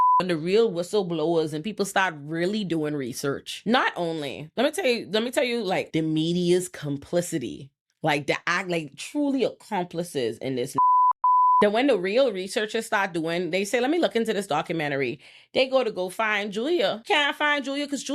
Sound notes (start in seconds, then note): 10.7 beep